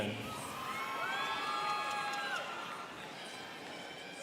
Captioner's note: students cheering